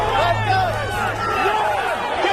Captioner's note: shouting